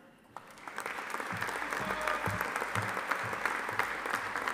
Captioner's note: audience applauding